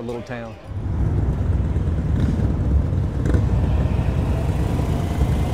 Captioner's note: motorcycles roaring